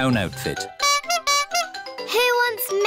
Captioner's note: toots horn